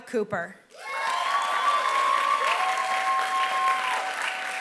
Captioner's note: applause